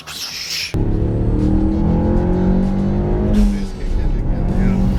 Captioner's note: blows air; engine revs